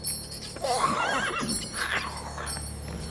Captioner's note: neigh